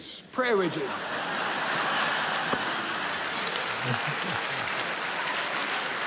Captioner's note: congregation laughs and applauds